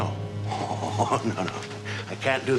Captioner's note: chuckling